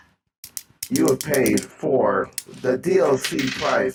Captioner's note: tippy taps on the coins